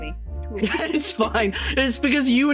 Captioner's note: laughing